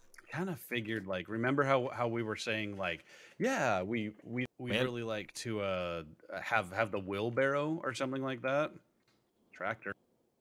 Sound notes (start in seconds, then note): none